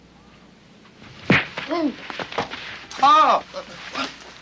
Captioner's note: Forbes grunts